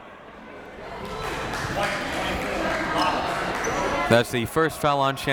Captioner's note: crowd clapping